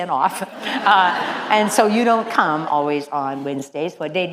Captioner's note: laugh